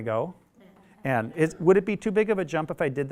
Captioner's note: audience mumbles response